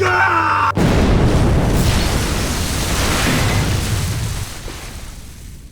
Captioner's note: BLU Sniper and RED Scout Scream; explosions